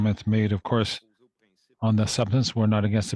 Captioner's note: speaking French